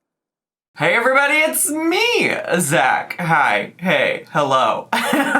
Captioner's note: laughs